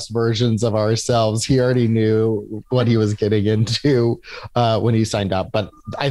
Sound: laughs

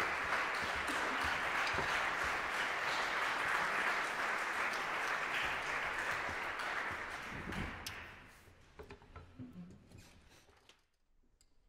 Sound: audience Applause

